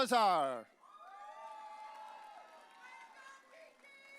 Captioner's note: audience cheering